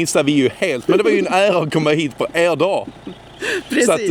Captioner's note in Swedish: skratt